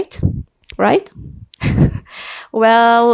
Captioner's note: laughs